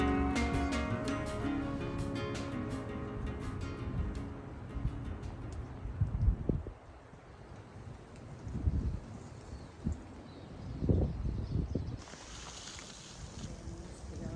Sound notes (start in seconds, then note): 6.4 wind blowing; 13.8 footsteps